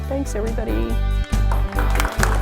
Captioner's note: applause